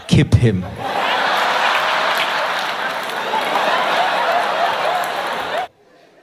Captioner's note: laughter